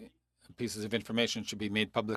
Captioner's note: speaking French